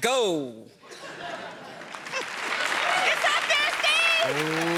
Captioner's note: cheers and applause